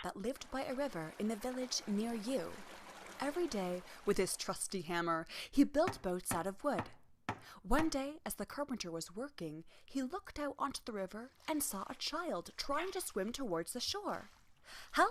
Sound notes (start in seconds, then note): 2.5 river rustling; 6.7 hammer tapping